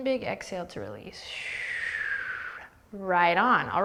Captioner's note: exhaling whistle